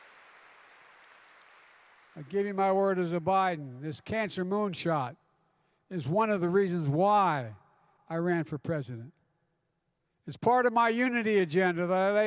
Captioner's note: applause